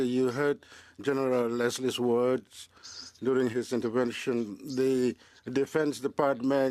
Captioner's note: speaking French